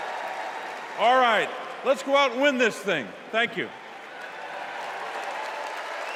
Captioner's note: cheers and applause